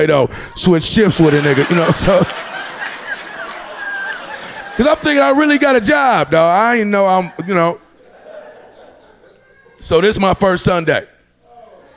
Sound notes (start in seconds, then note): 2.5 audience laughing